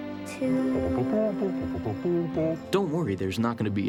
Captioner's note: elliott humming